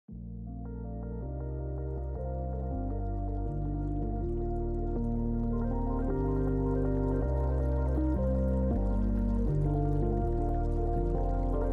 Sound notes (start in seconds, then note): 1.7 tranquil music; 2.6 water flowing